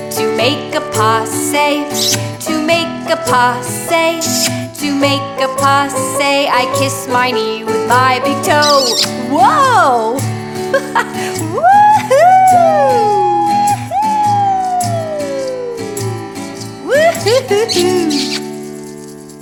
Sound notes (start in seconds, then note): 10.7 laughing and cheering